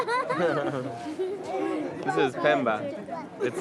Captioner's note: laughing